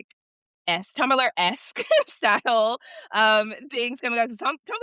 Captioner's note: chuckles